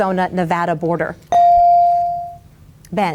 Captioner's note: bell dings